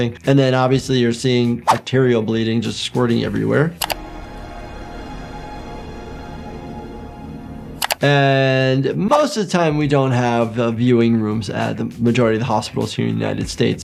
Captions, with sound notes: And then obviously, you're seeing bacterial bleeding just squirting everywhere. (keys clack) (ominous music) And, most of the time we don't have viewing rooms at the majority of the hospitals here in the United States.